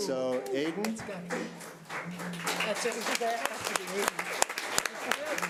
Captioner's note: audience applause